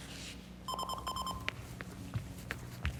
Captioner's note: phone ringing